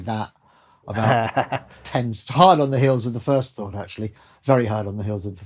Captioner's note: laughter